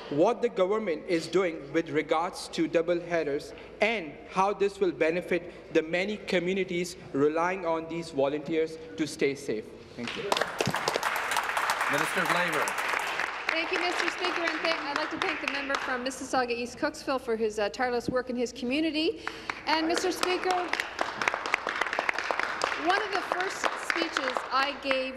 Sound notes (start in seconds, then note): 12.8 applause